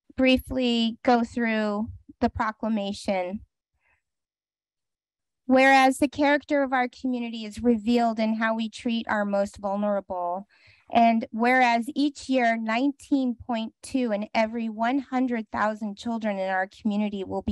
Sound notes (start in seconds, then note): 3.4 pause